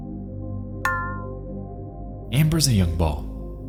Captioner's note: menu sound effects